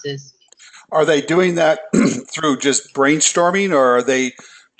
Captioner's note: cough